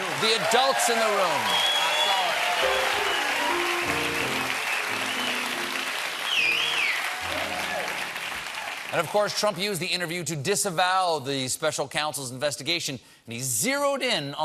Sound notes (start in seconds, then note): 3.1 cheers and applause